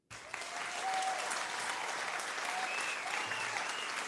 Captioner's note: crowd cheers